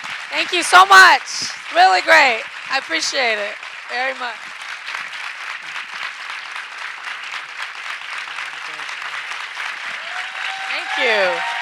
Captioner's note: audience cheering and clapping